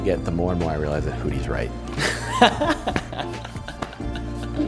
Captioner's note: laughter